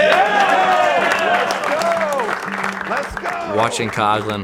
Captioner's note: cheering